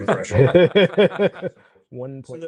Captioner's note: laughter